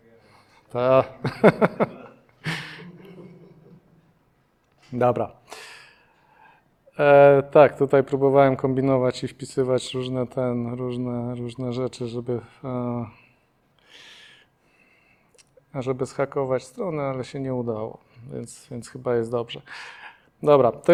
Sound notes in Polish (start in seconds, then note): 1.1 śmiech